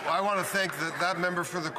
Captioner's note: applause